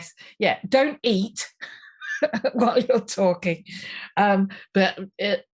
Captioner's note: laughs